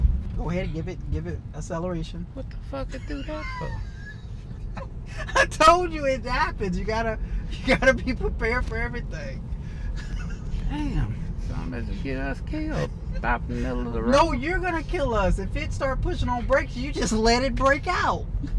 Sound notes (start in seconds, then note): 3.0 laughs